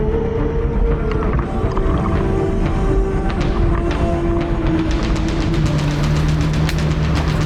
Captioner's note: suspenseful music continues; water bubbling